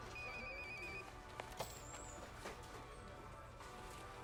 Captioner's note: phone rings